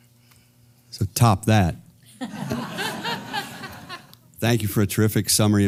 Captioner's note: laugh